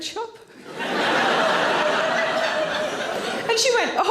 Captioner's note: audience laughter